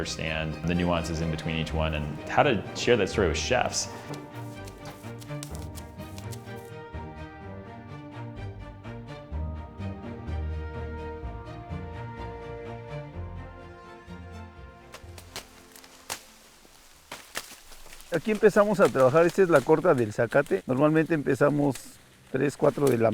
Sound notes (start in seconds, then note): 5.5 upbeat music; 16.8 leaves whirring; 19.0 speaking in foreign language